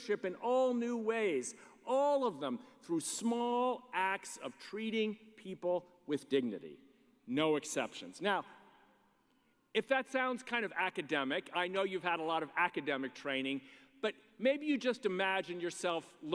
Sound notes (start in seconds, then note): none